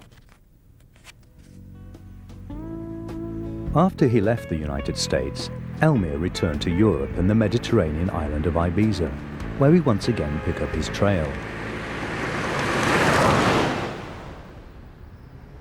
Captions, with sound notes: (mellow music) After he left the United States, Elmyr returned to Europe and the Mediterranean island of Ibiza, where we once again pick up his trail. (car whooshes)